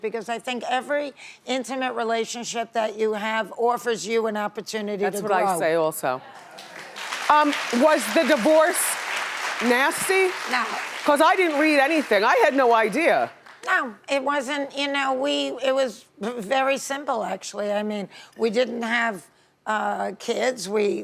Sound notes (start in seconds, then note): 6.4 audience applauding